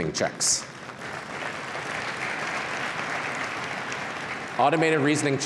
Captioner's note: applause